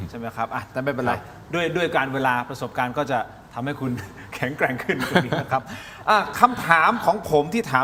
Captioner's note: laughter